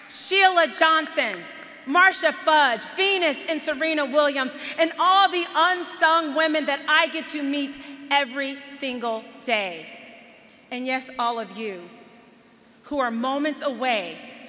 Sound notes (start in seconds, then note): none